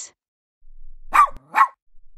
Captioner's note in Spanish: FX - Dog Bark - 01